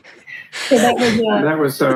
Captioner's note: laughing